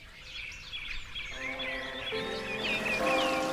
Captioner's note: birdsong, running water, bells